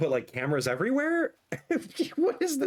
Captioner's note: laughs